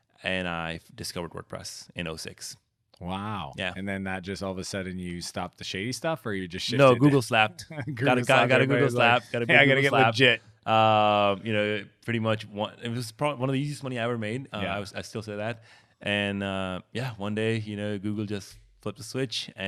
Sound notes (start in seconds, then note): 7.6 chuckles